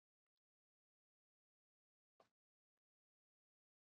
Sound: none

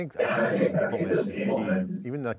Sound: voice distortion noise drowns out other sounds

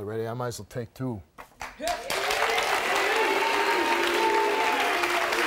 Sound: audience applauding

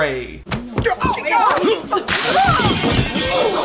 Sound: people grunting; plates crashing

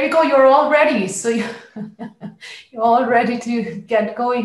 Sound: laughs

